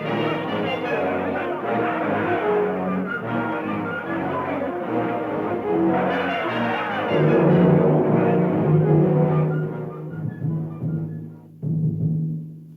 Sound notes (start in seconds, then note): 6.4 gong resonating; 10.2 drum beating